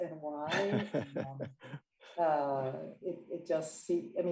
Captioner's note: laughing